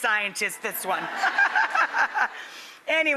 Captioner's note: laughter